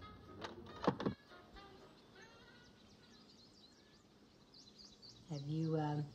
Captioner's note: birds chirping